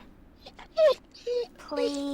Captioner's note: whimpers